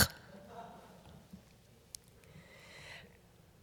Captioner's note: laughter